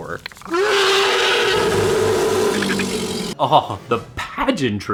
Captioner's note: Predator roaring